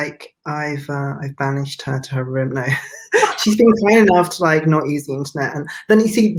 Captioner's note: both laugh